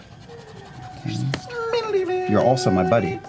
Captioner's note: whispering